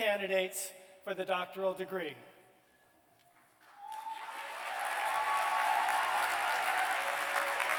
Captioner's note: cheers and applause